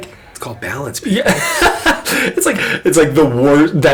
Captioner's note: laughing